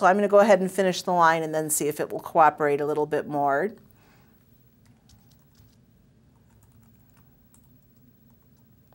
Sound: pause

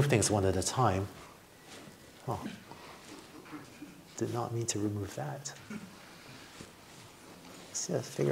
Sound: laughter

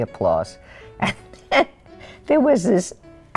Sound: chuckling

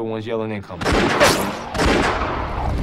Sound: gun fires; bullet ricochets

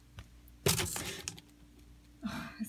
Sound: scraping sound

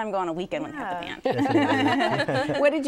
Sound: laughter

